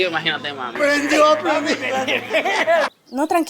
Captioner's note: laughs